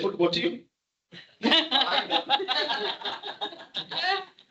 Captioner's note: audience laughter